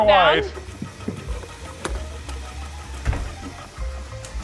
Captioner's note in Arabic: طنين الخلاط